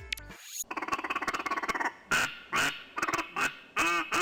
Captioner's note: duck quacking